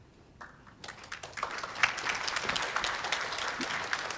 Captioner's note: applause